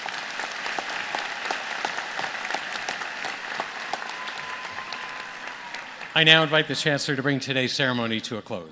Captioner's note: applause